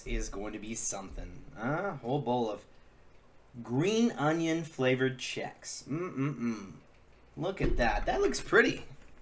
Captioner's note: mmm sounds